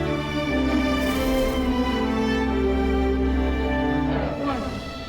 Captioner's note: debris whooshing